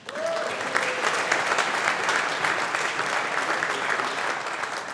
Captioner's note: audience applauding